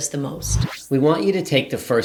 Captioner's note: wind whooshing